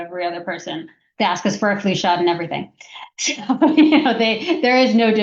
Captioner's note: laughs